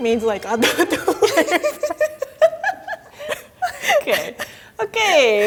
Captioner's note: both laughing